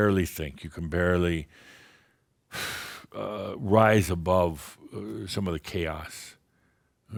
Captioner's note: sigh